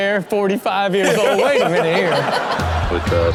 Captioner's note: everyone laughs